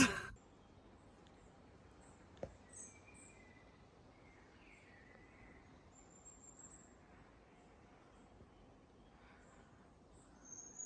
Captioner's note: quiet nature sounds